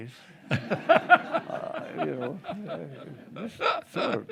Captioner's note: group laughing